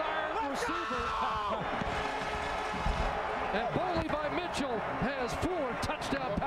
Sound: cheering/applause

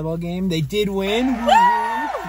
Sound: cheering

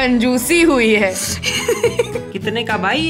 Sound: chuckles

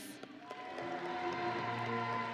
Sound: audience and graduates cheering; grand music

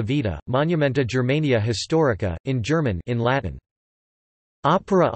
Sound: in German

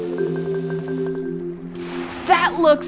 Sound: whirring

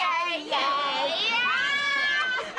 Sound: laughing

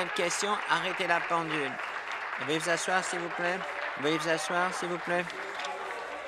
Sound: applause

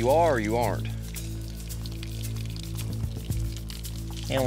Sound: water hose running

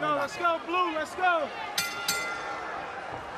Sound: bell rings

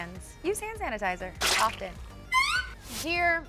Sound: lotion squelching

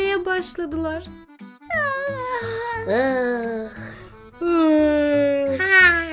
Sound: yawns

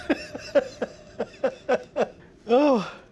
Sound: laughter

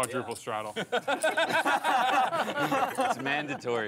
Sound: laughing

